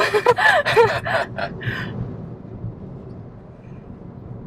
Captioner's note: both laughing